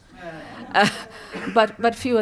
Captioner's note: laughter